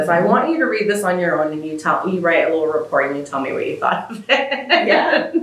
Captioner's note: laughter